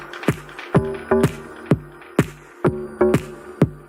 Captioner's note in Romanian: Aplauze